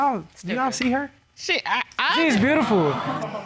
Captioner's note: judge stammers